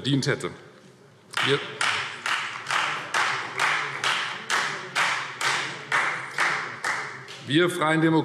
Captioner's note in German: Beifall Freie Demokraten